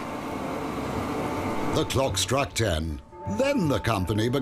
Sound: English accent

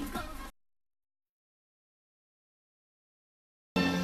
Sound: silence

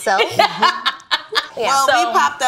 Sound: laughs

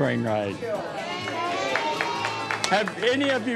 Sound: applause

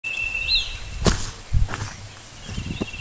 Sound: footsteps

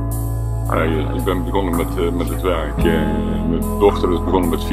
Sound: speaking foreign language

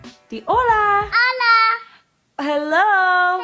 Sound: speaks in foreign language

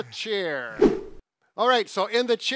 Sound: swift whooshing

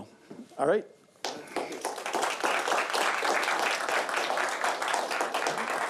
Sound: applause

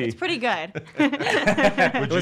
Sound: laughing

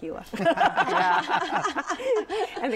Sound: laughter

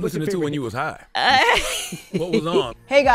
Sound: Kamala laughs

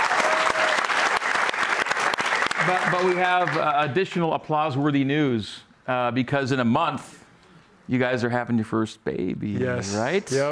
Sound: cheers and applause

